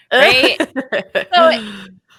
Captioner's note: laughing